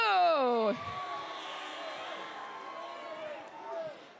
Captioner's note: crowd cheers